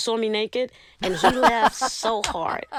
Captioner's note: laughter